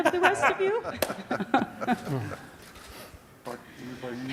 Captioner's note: laughter